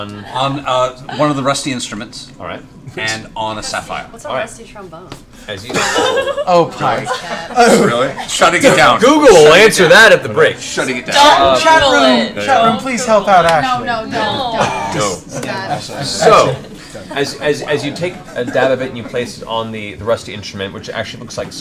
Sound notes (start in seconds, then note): 5.7 laughter; 11.1 shouts